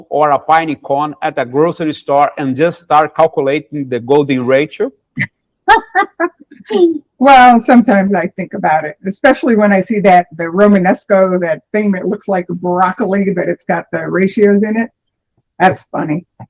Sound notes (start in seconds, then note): 5.6 laughter